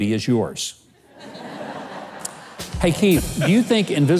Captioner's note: audience laughs